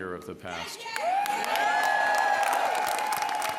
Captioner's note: cheers